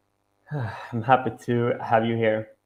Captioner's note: exhales